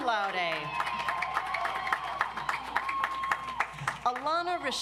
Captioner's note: audience applauds